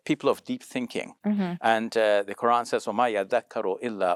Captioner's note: foreign language